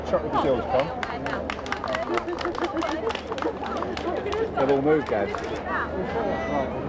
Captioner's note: applauding; chattering